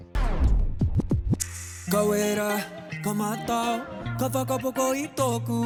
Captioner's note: record scratches